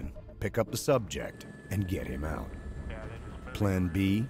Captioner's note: voiceover